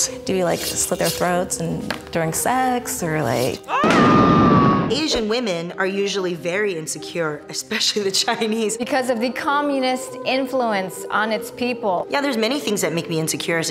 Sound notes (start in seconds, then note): 3.6 screams